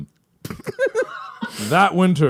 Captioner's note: laugh out of shock